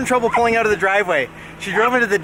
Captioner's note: laughing